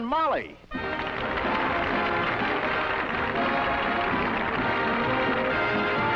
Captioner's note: applause